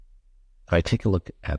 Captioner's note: silence